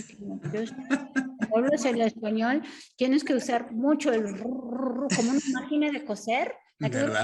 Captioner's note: Sandra speaking Spanish; laughing; Sandra speaking Spanish; speaks Spanish